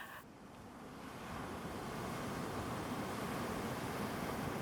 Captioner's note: laughing; wave crashing gently